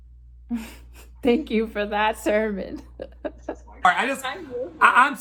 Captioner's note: laughs; continues laughing